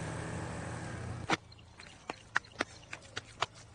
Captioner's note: clay squishing